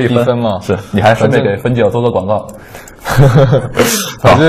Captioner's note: laughs